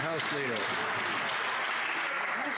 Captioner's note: some Applause